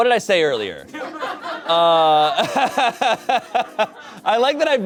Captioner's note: audience laughing